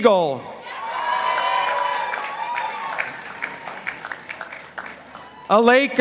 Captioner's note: participants applauding